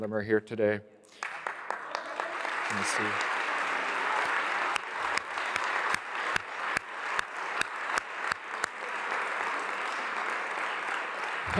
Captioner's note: applause